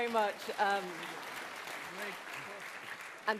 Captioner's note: applause